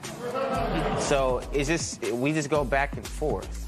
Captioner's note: laughter